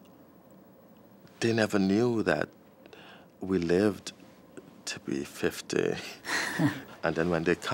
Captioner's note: chuckles